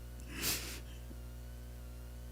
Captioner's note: sniffs